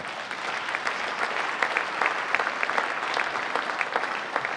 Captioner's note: audience applauding